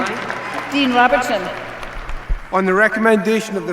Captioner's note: applause